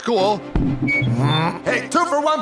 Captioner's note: microphone feedback